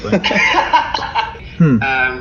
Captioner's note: laughter